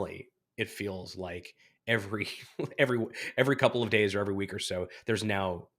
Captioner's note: laughs